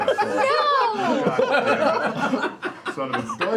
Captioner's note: laughter